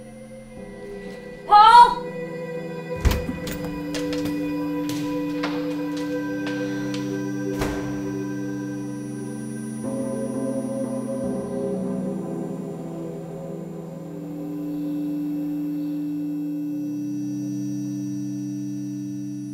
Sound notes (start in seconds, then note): 2.9 door clicks